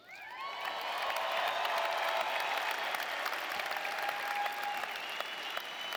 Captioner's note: audience cheering and applauding